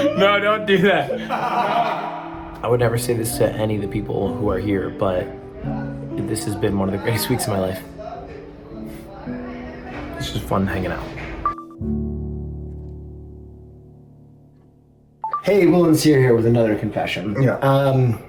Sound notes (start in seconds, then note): 1.1 laughter